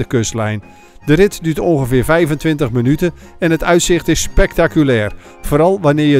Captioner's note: voiceover